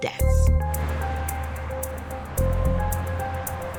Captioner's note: cars passing; tense music